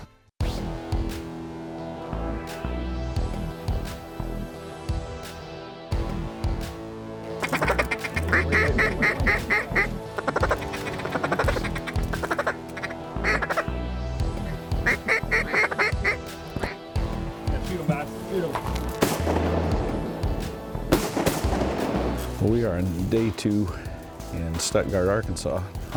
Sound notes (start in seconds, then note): 7.2 duck calls; 18.8 gun shots